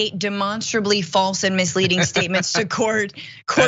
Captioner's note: laugh